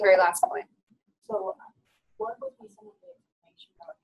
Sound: voiceover

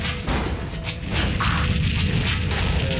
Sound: fire shooting

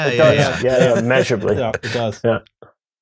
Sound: laughs

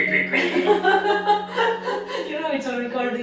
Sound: laugh

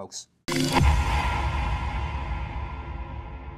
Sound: sound echoing

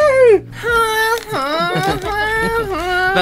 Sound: imitating Sexy Flute Music

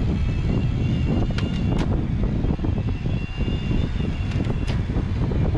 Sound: electric motor whining; gears clicking

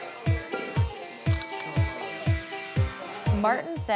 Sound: indian music; bell rings

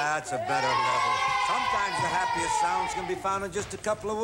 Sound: children shouting

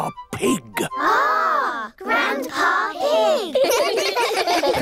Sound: giggling

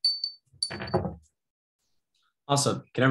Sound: bell ringing

